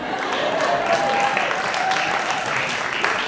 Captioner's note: audience applauding